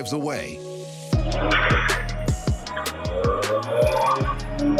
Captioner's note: engine revs; tires screech